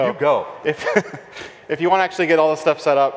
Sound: laughs

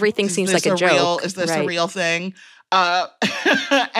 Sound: chuckles

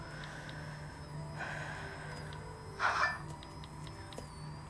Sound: sighs

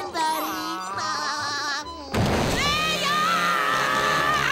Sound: laughing; screaming

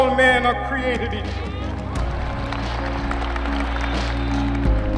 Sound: applause

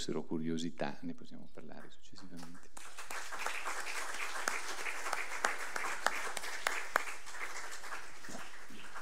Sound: applause

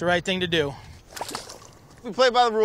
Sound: fish splashing

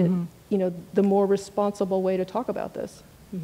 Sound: speaks quietly without mic

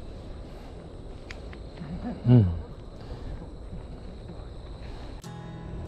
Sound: laughs

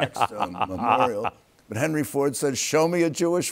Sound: laughs

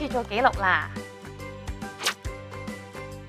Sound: swishing sound

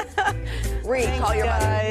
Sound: laughter

